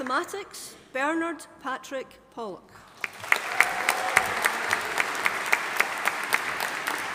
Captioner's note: audience applauding